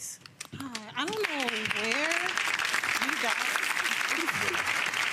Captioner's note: audience clapping